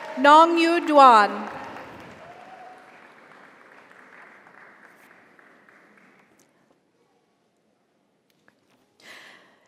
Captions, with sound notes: Nongyu Duan. (audience applauds) (audience cheers)